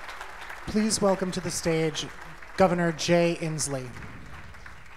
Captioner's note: applause